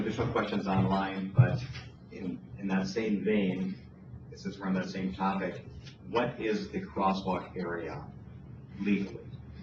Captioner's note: moderator speaking in background